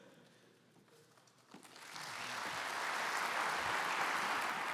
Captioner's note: applause